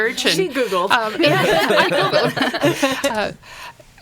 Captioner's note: laughing